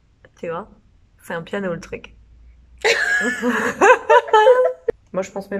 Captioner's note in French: rires